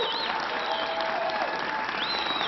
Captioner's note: applause